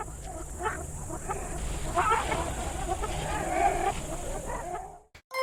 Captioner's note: jungle sounds